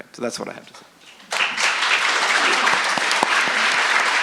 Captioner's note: applause